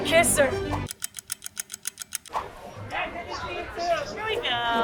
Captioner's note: clock ticking